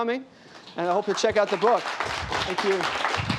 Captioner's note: applause